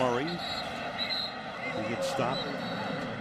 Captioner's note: whistle